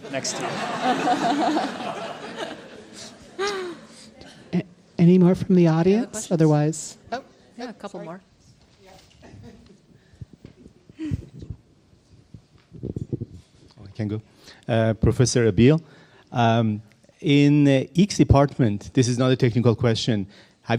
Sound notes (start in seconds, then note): 1.7 audience and panel laughing